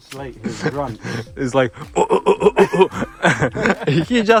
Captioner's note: making pig noises